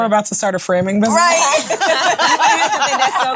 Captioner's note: ladies laughing